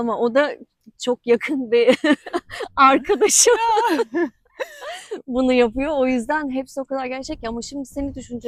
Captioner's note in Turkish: kahkaha